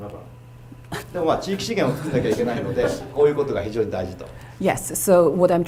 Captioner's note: speaking foreign langauge